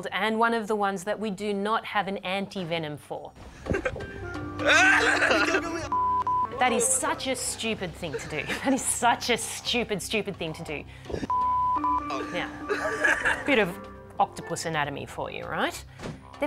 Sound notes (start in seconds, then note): 4.6 screams and laughs; 4.6 chuckles